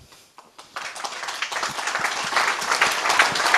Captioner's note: applause